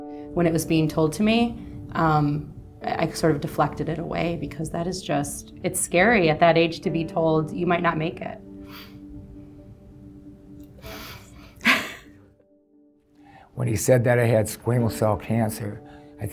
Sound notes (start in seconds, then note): 8.7 sniffing; 11.6 laughing